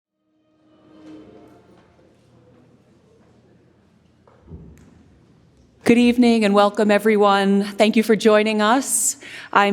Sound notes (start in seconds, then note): 2.8 ambient music; 3.8 footsteps clomping